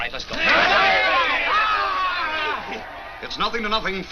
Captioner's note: players yell